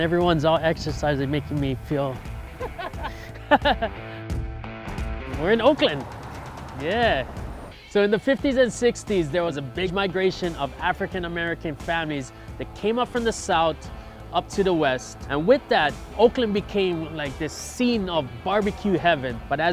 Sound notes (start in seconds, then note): 2.5 laughter